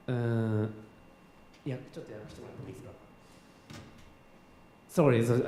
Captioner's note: speaking japanese